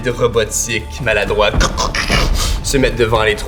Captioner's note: creaking